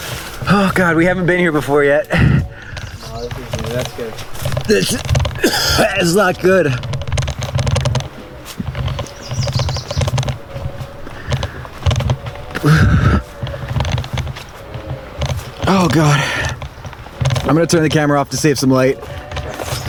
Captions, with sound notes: Oh, God. We haven't been here before yet. That's good. This is [heaving] not good. Oh, God. I'm gonna turn the camera off to save some light.